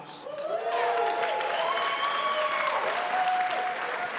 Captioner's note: audience cheering